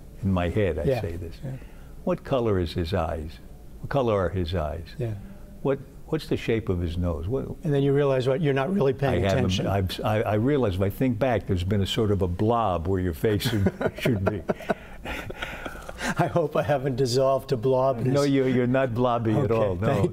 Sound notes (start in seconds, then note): 13.4 laughter